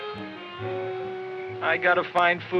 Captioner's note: crickets chirping